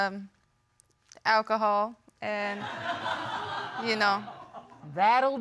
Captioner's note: audience laughing